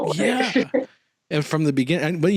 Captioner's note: laughs